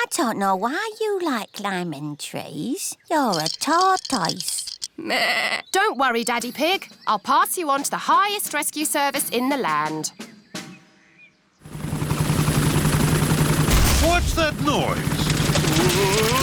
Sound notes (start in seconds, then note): 5.2 bleats; 12.5 whirring; 14.1 thuds